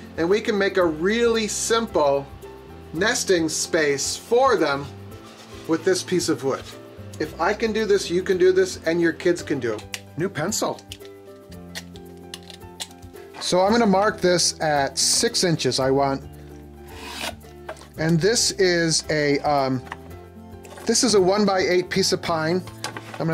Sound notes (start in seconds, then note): 9.9 taps pencil; 11.7 shaves pencil wood; 17.0 pencil draws on wood